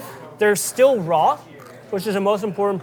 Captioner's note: carrot crunches